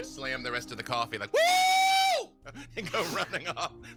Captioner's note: shouts